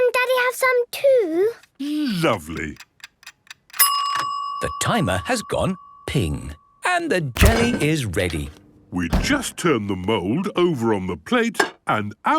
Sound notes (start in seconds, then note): 3.7 dinging